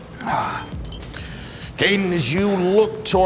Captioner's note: sighing